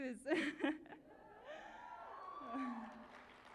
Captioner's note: cheering